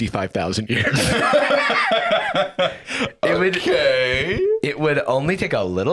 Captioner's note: laughs